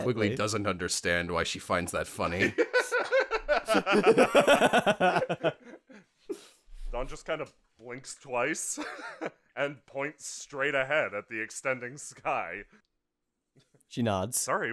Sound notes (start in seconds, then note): 2.3 laughter